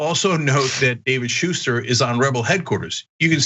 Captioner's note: laugh